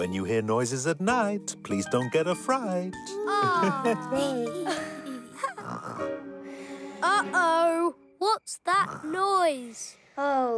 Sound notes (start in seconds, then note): 3.3 chuckling; 5.9 snoring